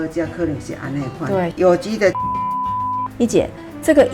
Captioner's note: beep…